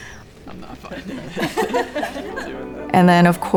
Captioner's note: students laughing